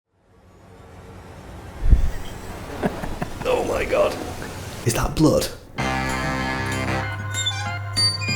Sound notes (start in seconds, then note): 1.8 dramatic music building; 2.2 laughing; 5.7 ska music